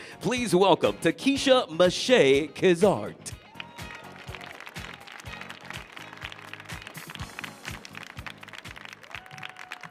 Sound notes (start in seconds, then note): 3.4 audience applauding; 3.8 audience cheering